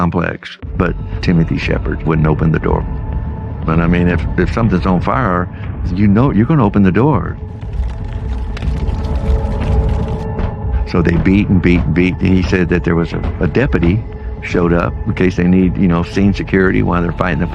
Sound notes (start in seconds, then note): 7.3 fire crackling